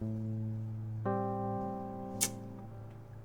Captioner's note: none